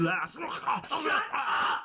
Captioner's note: gagging